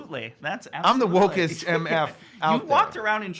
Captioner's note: laughs